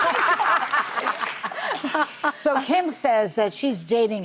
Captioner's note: audience laughing